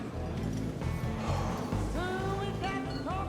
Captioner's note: Bonner sighing